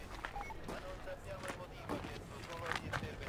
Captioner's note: footsteps